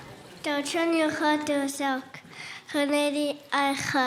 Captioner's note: speaking in Łingít